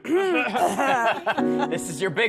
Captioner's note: clears throat; laughter